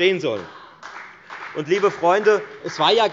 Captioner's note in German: Beifall bei der FDP und bei Abgeordneten der SPD